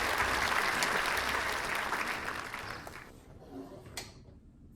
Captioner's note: applause